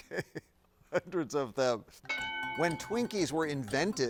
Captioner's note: bell dings